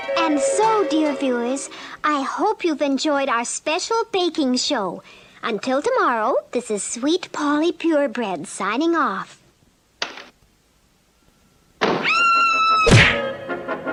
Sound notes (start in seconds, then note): 9.4 door Opens & then Closes; 12.1 Sweet Polly Screams; 12.8 smack!